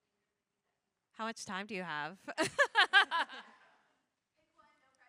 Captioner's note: both laughs